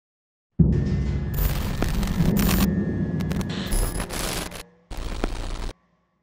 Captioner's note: suspenseful music; logo cracking